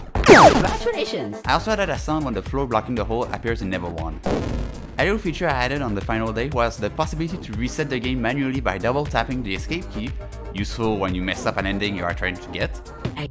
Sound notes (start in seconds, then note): 4.1 bonk